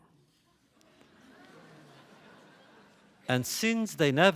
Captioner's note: laughter